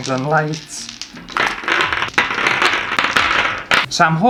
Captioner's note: clattering